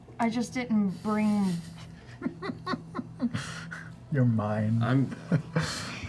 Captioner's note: laughs